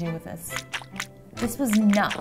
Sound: squishing

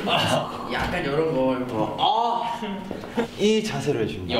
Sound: shouts

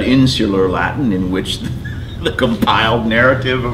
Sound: chuckles

